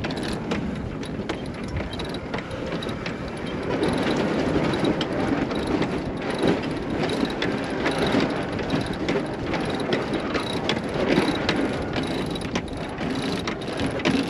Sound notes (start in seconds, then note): 3.1 winch cranking